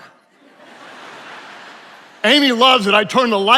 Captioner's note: attendees laughing